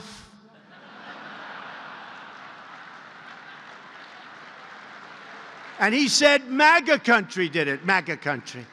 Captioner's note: laughter and applause